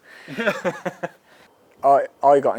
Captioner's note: laughs